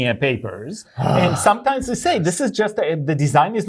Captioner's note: sighs